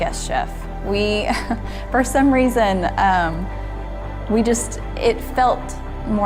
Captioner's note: chuckles